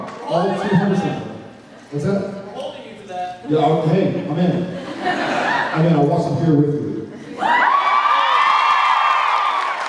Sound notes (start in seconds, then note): 4.8 laughs; 7.4 cheers, applauds